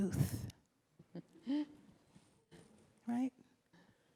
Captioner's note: laughs